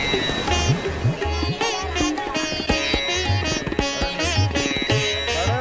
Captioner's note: people chattering